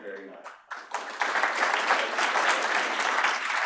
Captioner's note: applause